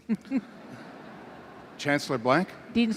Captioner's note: laughter